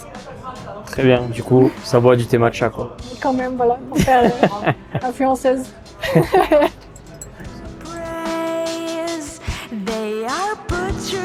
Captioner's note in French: rires